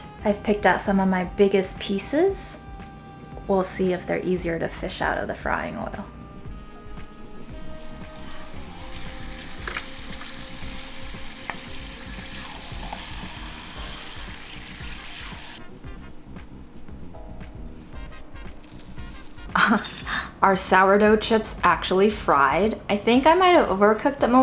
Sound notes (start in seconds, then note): 8.2 oil sizzling; 19.5 laughs; 19.8 chips rattling